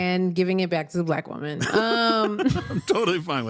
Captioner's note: laughing